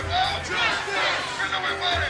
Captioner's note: crowd